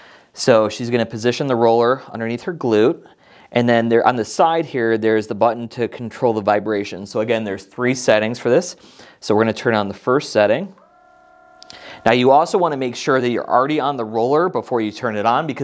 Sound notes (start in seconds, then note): 10.7 foam roller buzzing